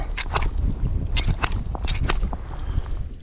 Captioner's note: slapping sound